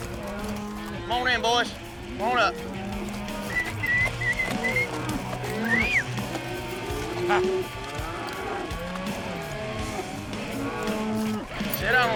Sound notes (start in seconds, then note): 0.0 calling cattle; 2.5 whistling; 7.2 cattle mooing